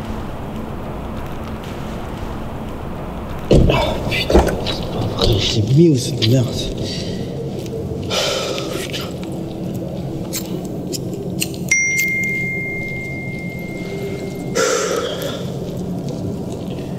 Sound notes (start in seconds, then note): 11.8 phone notification; 14.5 sigh